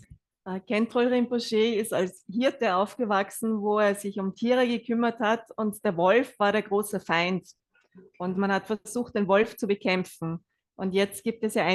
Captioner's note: German live translation